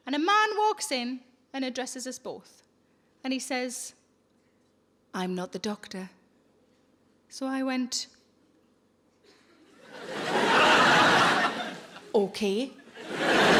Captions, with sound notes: And a man walks in and addresses us both. And he says, "I'm not the doctor." So I went, (audience laughs) "Okay."